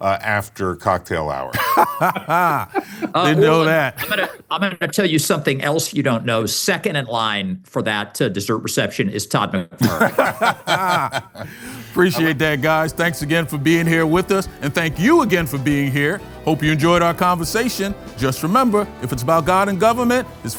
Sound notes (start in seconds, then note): 1.5 laughter; 9.8 laughter